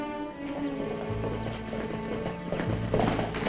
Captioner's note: hoofbeats approaching